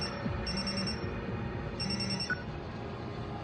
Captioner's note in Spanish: Suena el celular